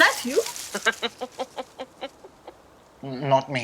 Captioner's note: sound of someone laughing